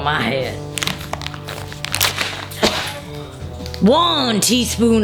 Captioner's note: bag tearing